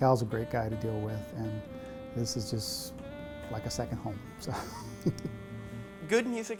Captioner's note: laughs